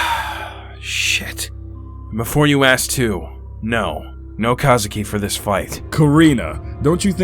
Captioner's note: sigh